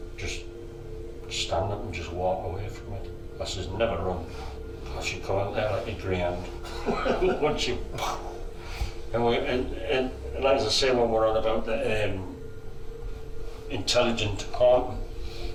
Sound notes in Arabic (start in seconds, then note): 6.6 يضحك; 7.8 يحاكي إطلاق الصواريخ